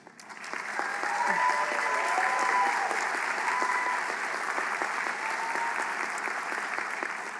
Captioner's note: applause